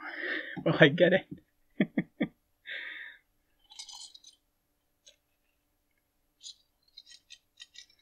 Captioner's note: laughing, clicking sounds